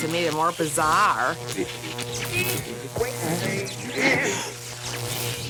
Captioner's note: radio fading in and out